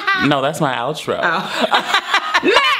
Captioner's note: both laughing